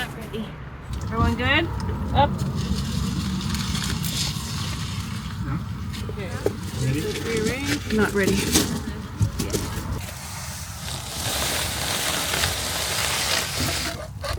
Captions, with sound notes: Everyone good? Up. *corregated styrofoam scraping on masonry* Okay. Ready? Let's rearrange. Not ready.